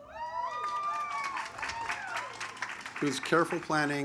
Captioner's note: audience applauds